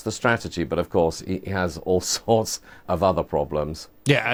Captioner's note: laughs